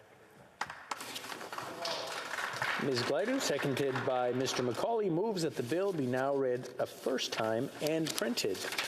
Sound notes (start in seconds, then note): 4.9 some Applause